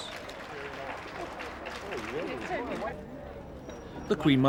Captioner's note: crowd applauding